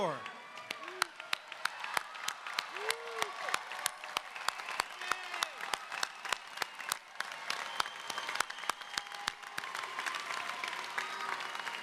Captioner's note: applause